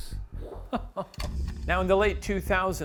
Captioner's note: chuckles